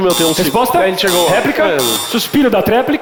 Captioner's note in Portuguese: campainha